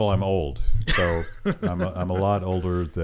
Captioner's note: laughing